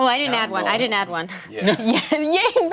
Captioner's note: chuckles